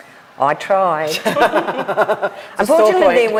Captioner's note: group laughs